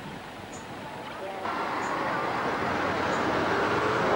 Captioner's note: cars humming